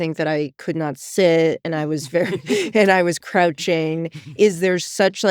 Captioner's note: chuckles